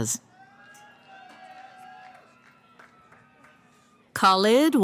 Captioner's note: cheering